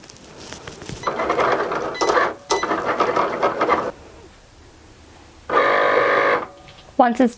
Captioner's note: Cricut beeps; Cricut whirs